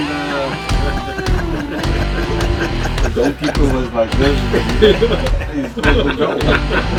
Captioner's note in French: rires